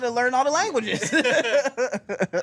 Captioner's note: everyone laughs